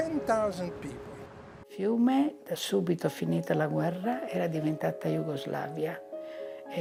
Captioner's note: speaking in foreign language